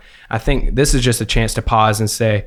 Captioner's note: none